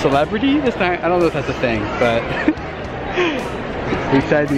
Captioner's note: laughs